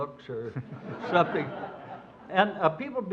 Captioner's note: audience laughs